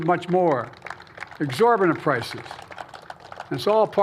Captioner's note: applause